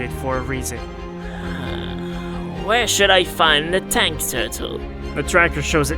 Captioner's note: exhale